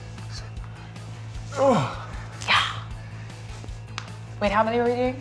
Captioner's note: grunting